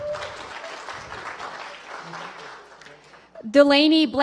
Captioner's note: applause